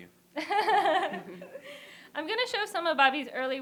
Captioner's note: laughter